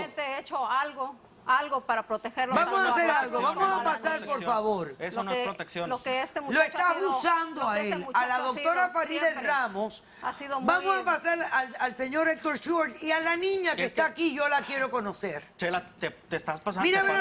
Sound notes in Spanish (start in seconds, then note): 4.0 Hablan al unísono